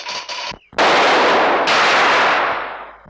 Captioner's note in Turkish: Silah sesleri